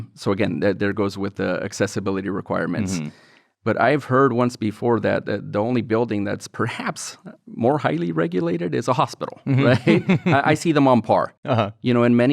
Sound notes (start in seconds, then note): 9.4 laughs